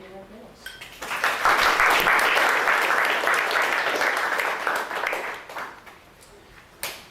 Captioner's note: audience applauding